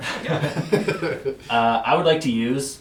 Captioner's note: all laugh